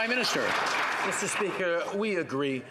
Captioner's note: some Applause